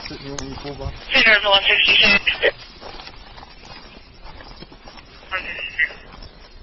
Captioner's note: radio code spoken